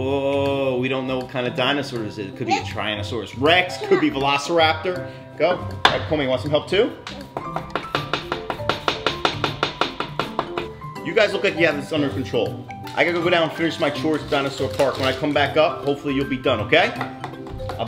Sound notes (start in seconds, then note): 7.0 hammer tapping